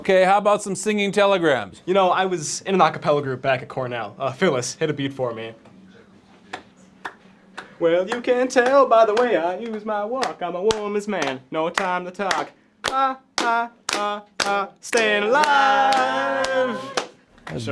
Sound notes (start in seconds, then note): 5.4 hesitant clapping